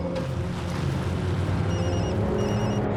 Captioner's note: phone rings